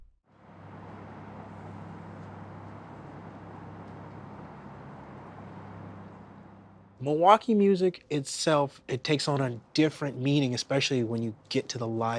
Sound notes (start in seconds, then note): 3.7 car engine roaring